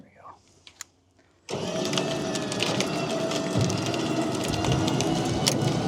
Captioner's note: machinery humming